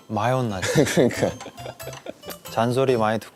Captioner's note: haha